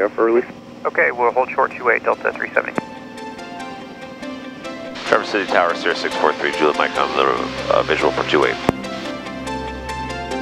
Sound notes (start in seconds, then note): 5.3 over Headset